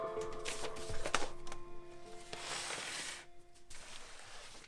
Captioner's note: paper rustling